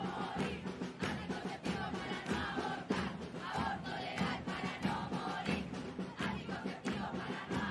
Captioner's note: chanting